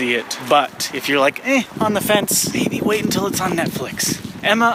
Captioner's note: stage whispering